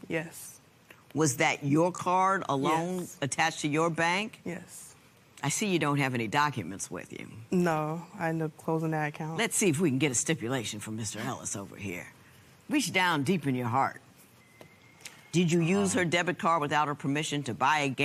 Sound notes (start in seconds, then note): none